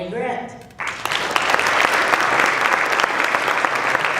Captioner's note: applause